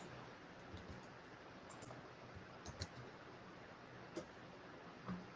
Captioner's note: keyboard clacking